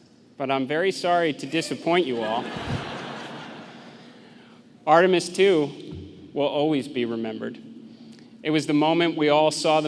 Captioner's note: laughter